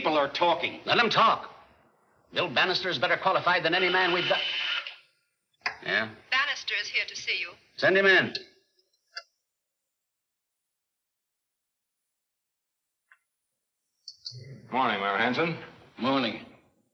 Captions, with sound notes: - Let them talk. Bill Bannister is better qualified than any man we've got. (intercom buzzing) Yeah? - [Woman On Intercom] Bannister is here to see you. - Send him in. - Good morning, Mayor Hansen. - Morning.